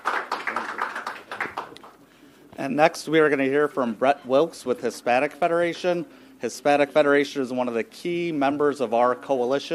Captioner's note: applause